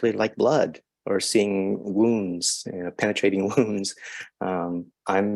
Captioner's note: chuckles